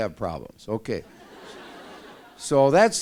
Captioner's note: laughter